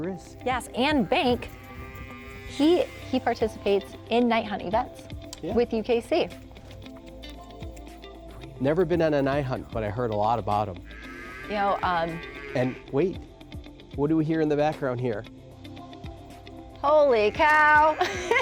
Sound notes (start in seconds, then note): 10.8 cow mooing in background